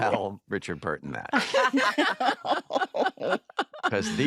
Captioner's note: laughter